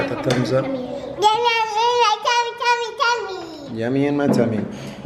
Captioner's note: mumbled baby talk